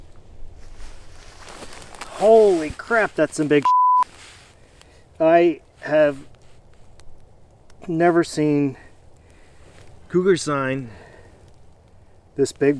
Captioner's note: beep